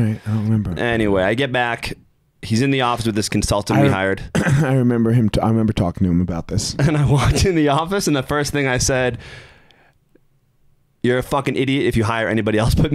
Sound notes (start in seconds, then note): 6.1 chuckling